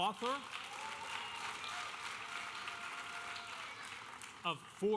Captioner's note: audience cheering and applauding